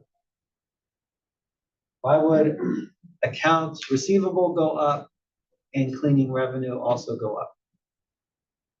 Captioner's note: cough